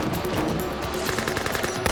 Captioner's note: gunfire continues